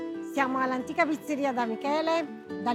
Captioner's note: in Italian